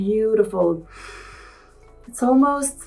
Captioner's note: Helena inhaling